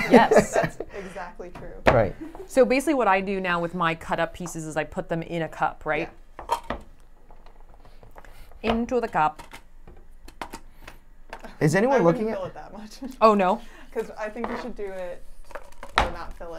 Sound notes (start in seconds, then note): 0.0 laughs; 13.3 chuckles